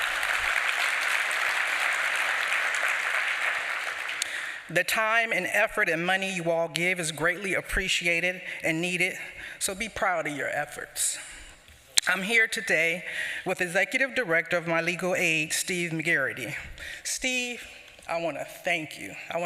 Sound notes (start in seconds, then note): 0.0 applause